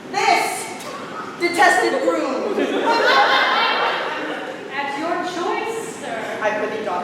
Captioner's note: laughter